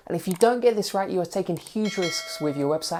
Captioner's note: bell rings